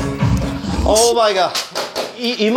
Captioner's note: A round of applause